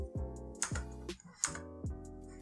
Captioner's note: typing